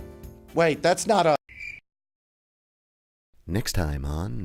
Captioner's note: cricket chirping